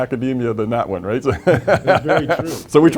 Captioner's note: laughs